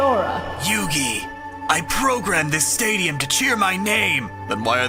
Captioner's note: Kaiba voice; Yami voice